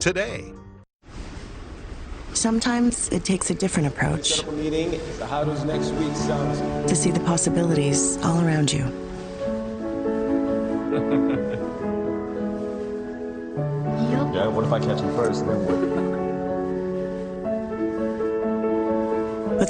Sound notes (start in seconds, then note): 10.8 laughs